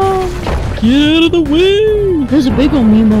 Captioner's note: silly voice